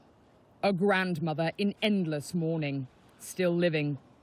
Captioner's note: voice-over